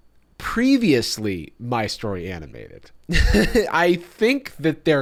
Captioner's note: laughs